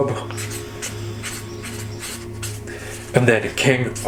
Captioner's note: paper rattling